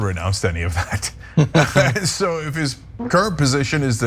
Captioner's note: laugh